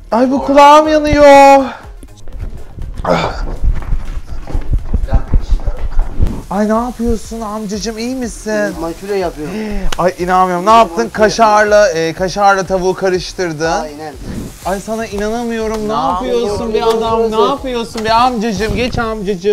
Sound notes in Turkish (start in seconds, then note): 9.4 iç çeker